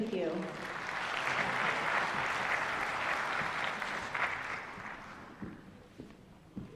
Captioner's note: applause